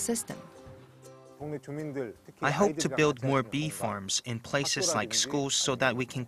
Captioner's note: Korean